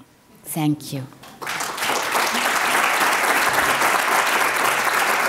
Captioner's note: applause